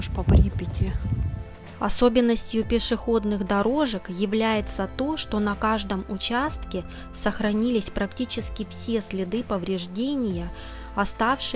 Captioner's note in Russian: закадровый голос